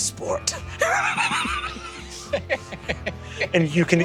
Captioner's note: everyone laughing quietly